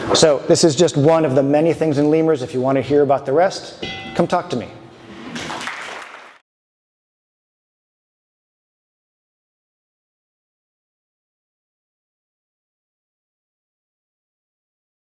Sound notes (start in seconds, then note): 3.8 bell rings; 5.3 audience claps